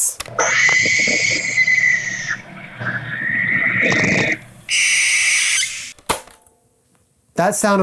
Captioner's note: spooky owl screeching